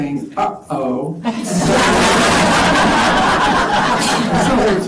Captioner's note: laughter